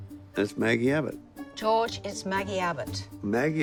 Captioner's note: none